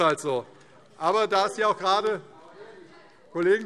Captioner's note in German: Zurufe SPD